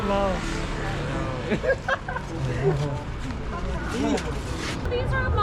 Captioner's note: laughs